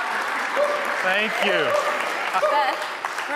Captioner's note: audience cheering; audience applauding